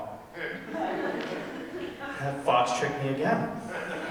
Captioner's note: audience laughing